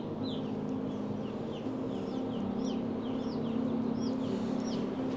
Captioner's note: chicks chirping